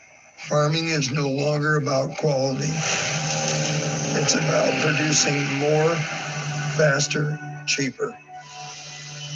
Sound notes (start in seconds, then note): 2.2 engine sounds